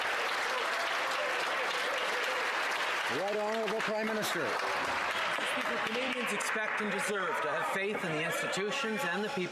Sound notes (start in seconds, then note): 4.2 some Applause